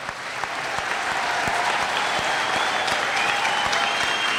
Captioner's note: applause